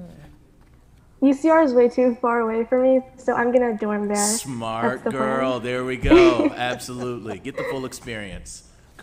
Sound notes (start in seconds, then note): 4.7 laughs